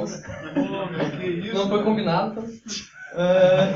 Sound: laughs

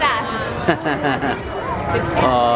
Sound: laughter

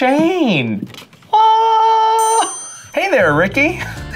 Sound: bell dinging

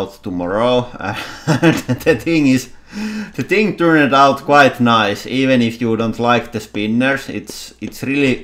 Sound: laughing

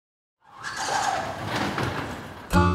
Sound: garage door sliding

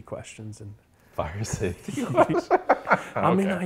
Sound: laughs

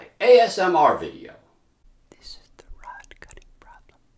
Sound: whispered

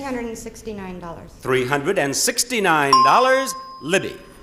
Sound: bell chimes

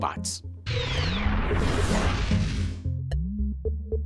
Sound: sound effect

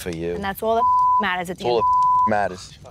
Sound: beep

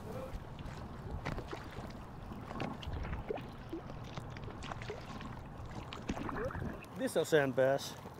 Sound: water splashing

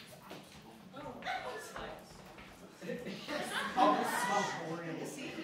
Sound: student chatter

